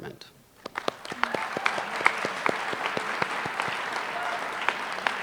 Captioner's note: applause